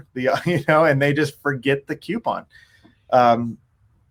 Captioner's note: chuckles